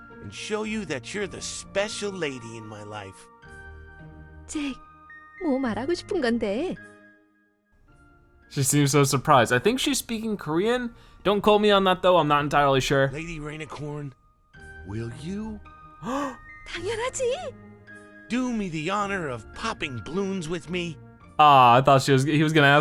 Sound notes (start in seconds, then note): 3.8 speaking foreign language; 16.0 gasps; 17.1 speaking foreign language